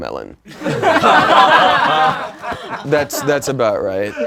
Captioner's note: laughing